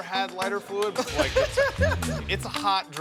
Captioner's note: bartender laughing